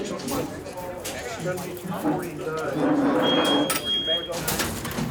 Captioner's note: electronic beeping; crates rattling